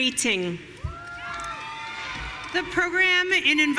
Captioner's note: audience cheering